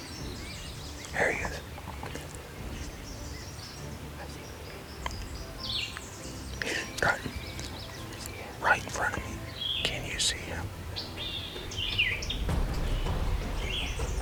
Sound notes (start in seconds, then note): 0.9 whispering; 4.2 whispering